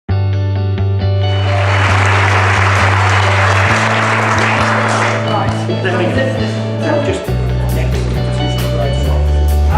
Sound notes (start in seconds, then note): 0.0 gentle music; 1.2 audience applauding